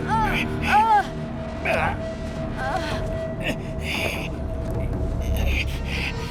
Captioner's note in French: Juliette haletante